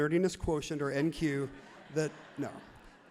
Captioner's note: crowd laughs happily